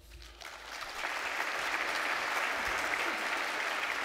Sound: audience applauds

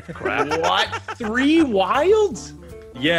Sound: laugh

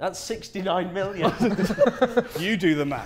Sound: Sidemen laughing

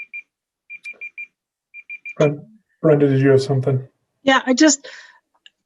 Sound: beeping

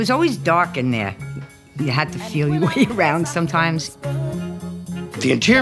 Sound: chuckling

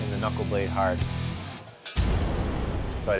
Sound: sizzles

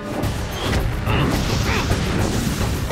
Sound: grunting

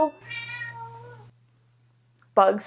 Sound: Bugs meows

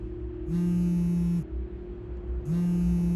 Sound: phone vibrates

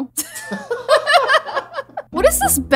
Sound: both laughs

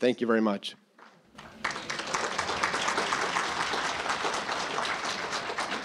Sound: audience applauding

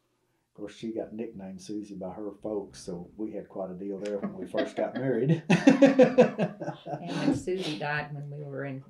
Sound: laughter

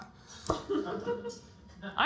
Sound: audience laughter

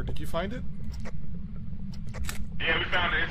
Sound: camera clicks

